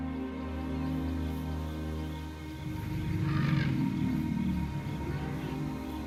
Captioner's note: rumbling